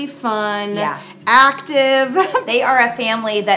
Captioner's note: giggles